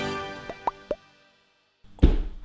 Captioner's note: intense music; popping